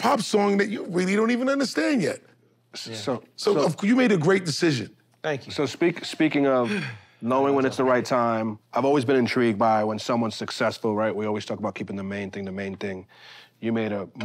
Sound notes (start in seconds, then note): 6.6 sighs